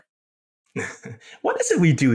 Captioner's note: laugh